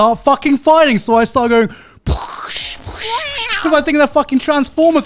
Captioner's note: pow sounds